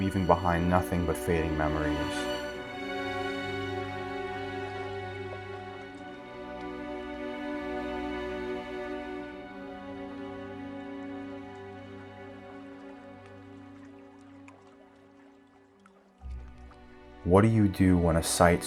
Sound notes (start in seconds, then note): 3.6 swelling Violin Music; 3.6 water Lapping